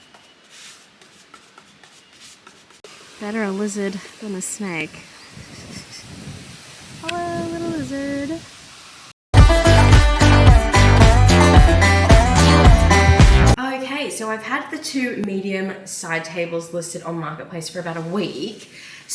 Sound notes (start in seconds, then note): 5.4 laughs nervously; 9.3 upbeat country jingle plays